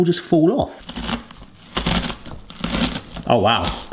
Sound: crunching

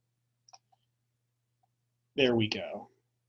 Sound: clicking

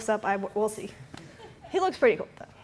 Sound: laughter

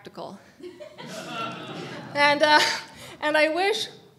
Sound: audience members laughing

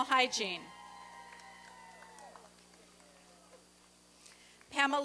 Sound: applause and cheering

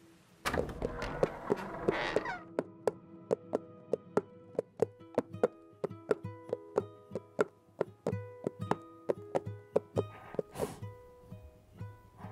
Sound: door opens; hoofsteps

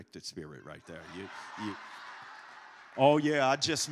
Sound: congregation laughs

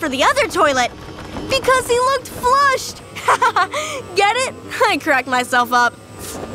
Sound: laughing

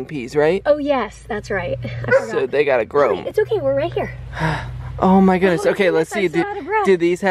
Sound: Ollie barks

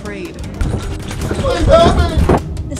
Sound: door rattle

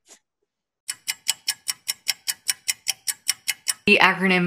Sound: clock ticking

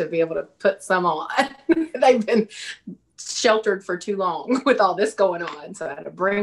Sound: laughs

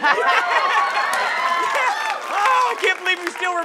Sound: laughs

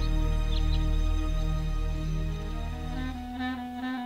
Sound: birds chirping; lively saxophone music

